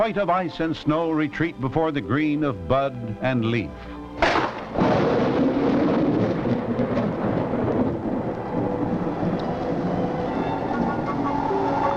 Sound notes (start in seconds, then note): 4.2 thundering